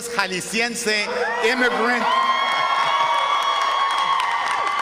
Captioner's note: cheering & applause